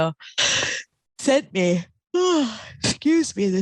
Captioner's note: yawning